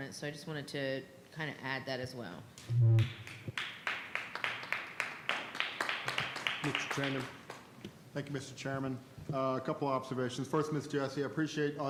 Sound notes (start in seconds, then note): 3.1 audience applauds